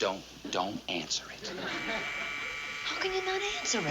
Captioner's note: buzzer rings